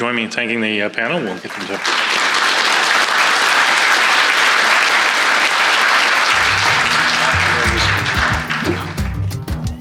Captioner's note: clapping